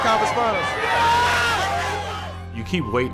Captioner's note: crowd cheering